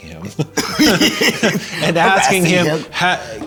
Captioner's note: both laughing